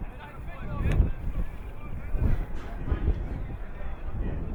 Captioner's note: audience muttering